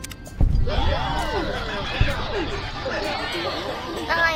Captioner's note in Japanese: 歓声